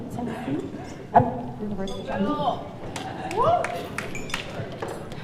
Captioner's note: people murmuring